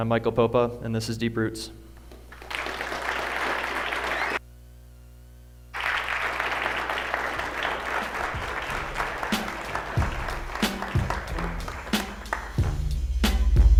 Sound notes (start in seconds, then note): 3.7 applause; 9.7 upbeat music